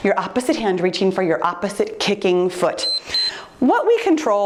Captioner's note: timer beeps